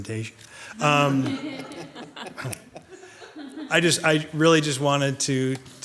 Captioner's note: people laughing